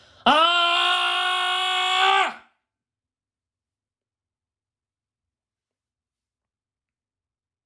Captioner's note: a scream of despair